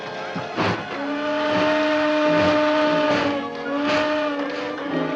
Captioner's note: train whistles